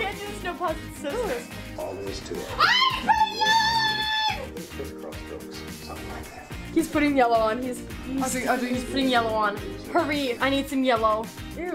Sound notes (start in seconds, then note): 2.8 yelling